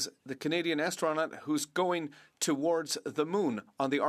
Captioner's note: speaking French